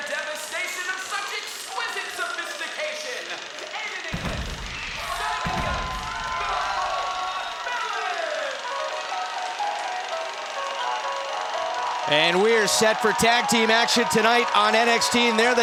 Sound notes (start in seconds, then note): 8.6 crowd cheering